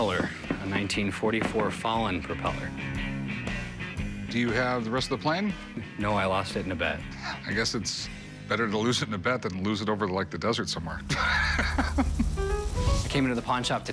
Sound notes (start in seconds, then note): 11.0 laughs